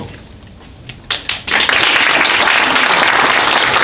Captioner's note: applause